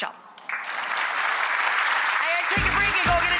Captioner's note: audience applauds